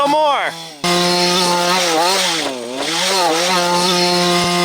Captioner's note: engine roaring